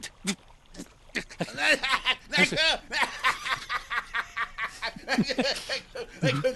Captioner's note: laughing